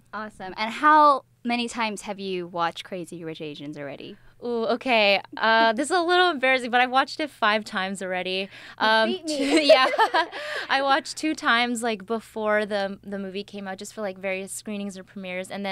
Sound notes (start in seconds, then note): 9.1 laughs